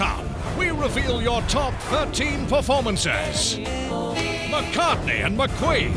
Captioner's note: voiceover